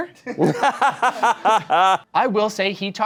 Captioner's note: laughing